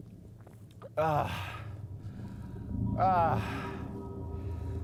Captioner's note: Carter groans